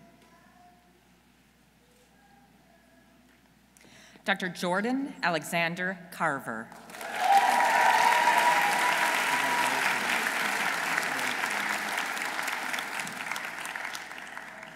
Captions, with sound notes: Dr. Jordan Alexander Carver. -(audience cheering) -(audience applauding)